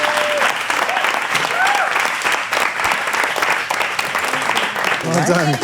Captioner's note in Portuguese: Aplausos